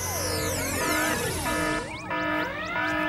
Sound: alarm

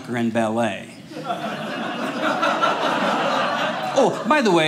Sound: audience laughing

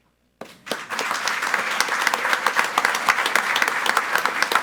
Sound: group applauding

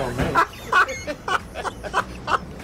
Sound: laughs

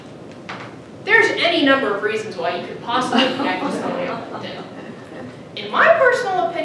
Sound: audience laughing

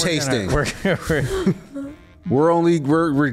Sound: laughs

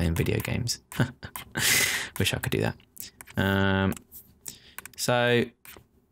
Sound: chuckling

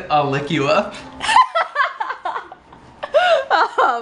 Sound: laughs

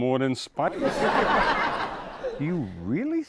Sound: audience laughs

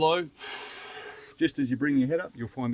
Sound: blows

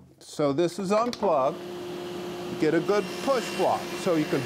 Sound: machine whirring

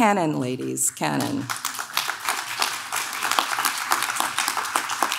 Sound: audience claps

